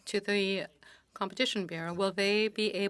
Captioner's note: speaking French